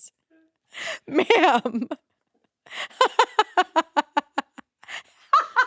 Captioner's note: laughs